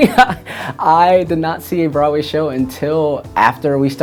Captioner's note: laughs